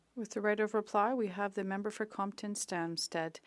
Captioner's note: speaking French